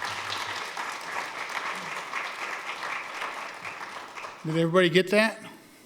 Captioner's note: applause